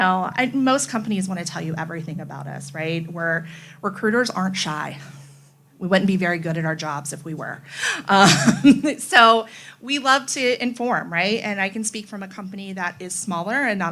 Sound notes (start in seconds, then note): 8.2 laughs